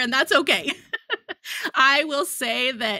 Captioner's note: laughs